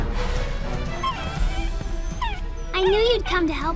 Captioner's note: dog whining